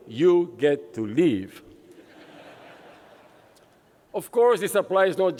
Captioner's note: laughter